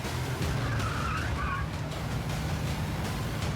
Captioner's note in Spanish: chirrido de neumáticos